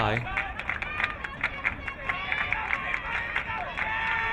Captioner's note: crowd clapping